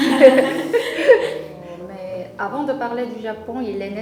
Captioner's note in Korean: 웃음